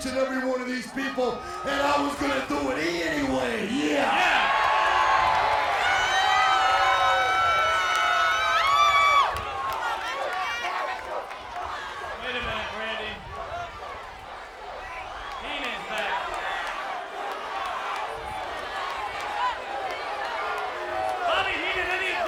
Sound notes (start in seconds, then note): 3.7 applause